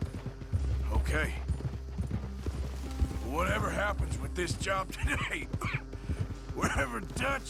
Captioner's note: coughs